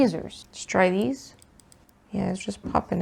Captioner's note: metal tweezer noises